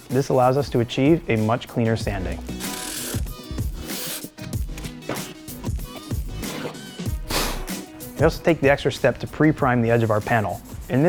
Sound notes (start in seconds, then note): 3.0 upbeat music; 5.8 blows